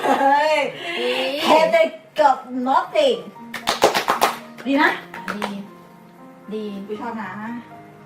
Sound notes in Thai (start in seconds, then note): 3.5 ปรบมือ !